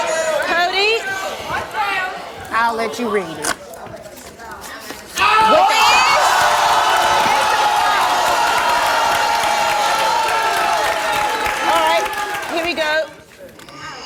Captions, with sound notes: - I'll let you read it. (audience yelling) - Alright, here we go.